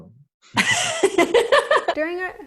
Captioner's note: laughs